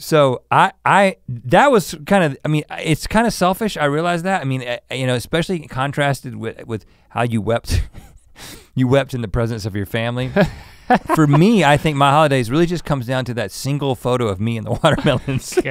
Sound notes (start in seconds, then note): 7.8 chuckles; 10.2 laughs